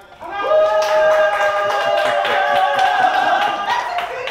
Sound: competitors cheering

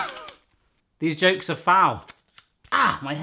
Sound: chuckling

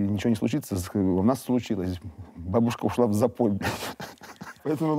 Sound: laughs

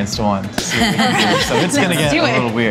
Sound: laughing

